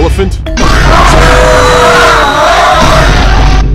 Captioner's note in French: Cri